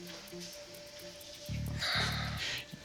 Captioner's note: sighs